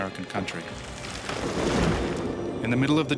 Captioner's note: loud crash